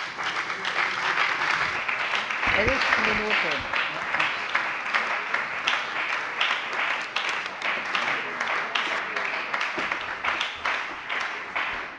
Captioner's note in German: Beifall bei der FDP, der SPD und der LINKEN